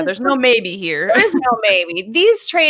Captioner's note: laughs